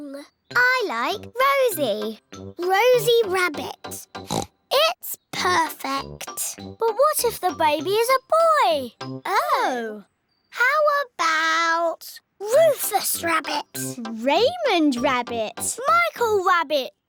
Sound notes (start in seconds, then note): 4.2 oinks